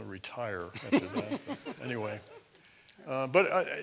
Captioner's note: laugh